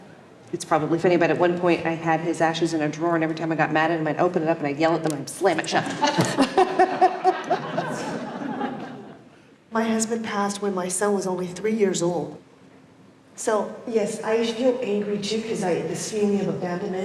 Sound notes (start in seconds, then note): 5.7 laughs